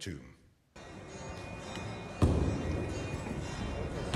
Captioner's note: bells ring